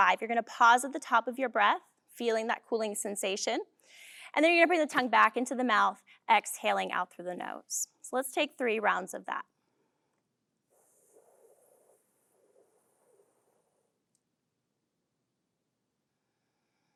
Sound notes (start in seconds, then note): 10.7 breathing